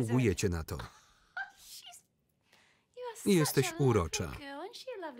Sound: laughs loudly

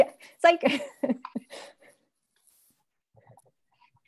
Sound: laughs; chuckles

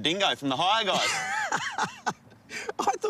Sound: laughs

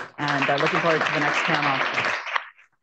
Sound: applause

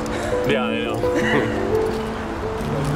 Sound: laughter

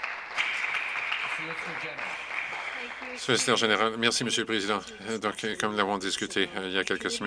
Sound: some Applause

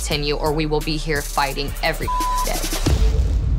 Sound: beep

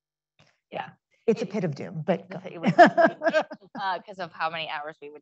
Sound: laughs

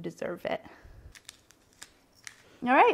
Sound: spices grinding

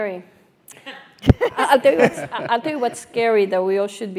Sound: laugh

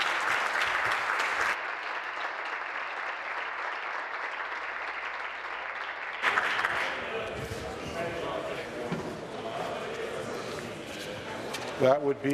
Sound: applause

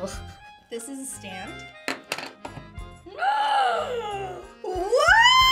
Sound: gasps

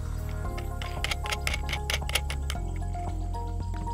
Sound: screw spins

